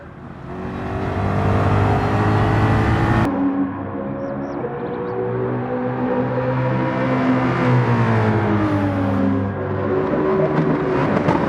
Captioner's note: engines revving, cars noises